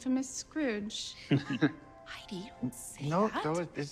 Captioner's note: man chuckling